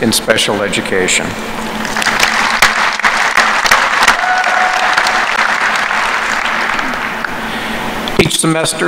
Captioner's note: applause